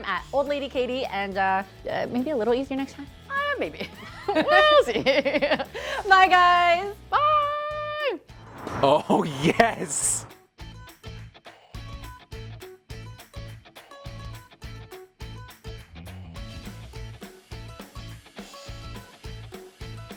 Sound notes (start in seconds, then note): 3.8 laughing; 10.6 upbeat music